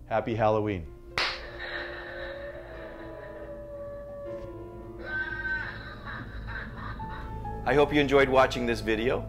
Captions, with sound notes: Happy Halloween. (claps) (howling) (laughing) I hope you enjoyed watching this video.